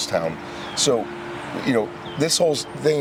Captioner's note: birds chirping